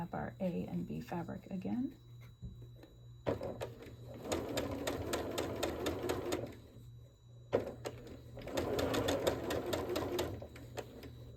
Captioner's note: sewing